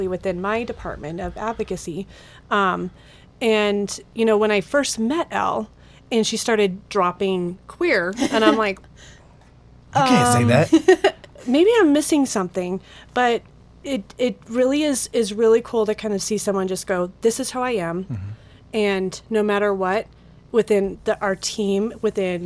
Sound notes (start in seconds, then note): 10.0 woman laughs